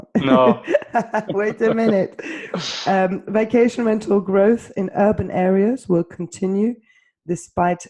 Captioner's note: laughs